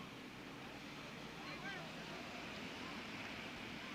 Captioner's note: indistinct chatter